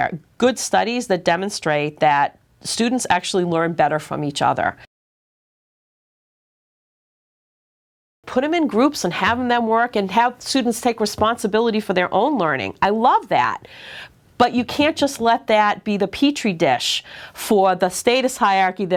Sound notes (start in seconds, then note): 5.3 silence